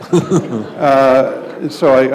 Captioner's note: laughter